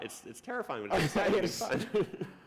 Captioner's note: laughter